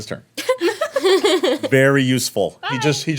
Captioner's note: women laughing